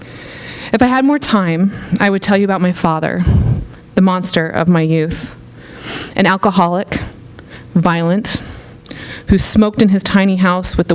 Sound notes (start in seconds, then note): none